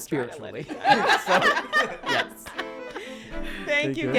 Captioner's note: laughing